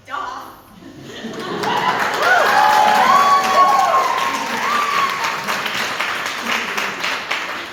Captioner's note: audience applaud and cheer